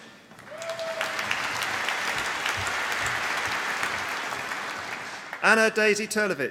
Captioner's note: applause